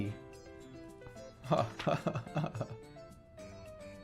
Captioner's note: awkward laughing